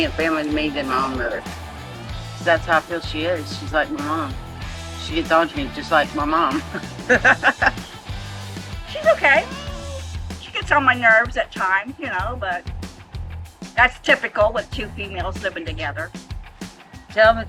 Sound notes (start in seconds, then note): 6.5 chuckles; 9.0 cat meowing